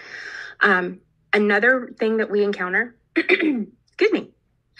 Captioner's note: clears throat